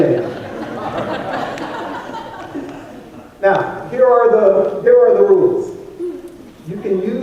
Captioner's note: laughter